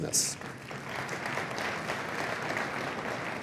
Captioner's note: applause